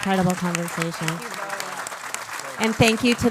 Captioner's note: audience applauds